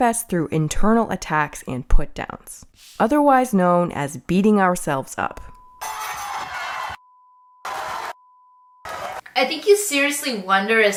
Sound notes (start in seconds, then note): 5.9 bell dinging; 5.9 crowd yelling